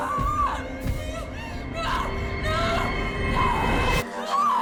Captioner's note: gasps